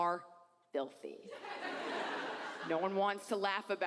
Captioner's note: audience laughs